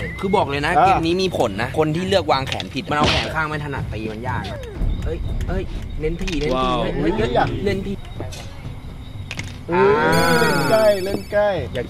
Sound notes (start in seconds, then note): 4.7 hitting; 9.2 falling; 9.8 cheering